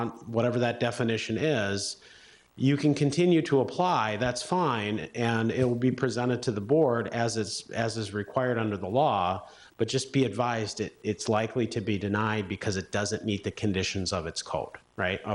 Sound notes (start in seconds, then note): none